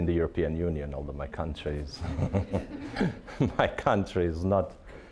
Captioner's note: all laughing